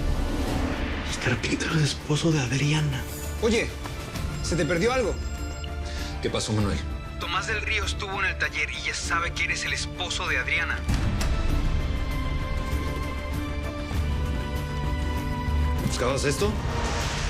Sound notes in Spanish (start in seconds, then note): 4.8 Suena un celular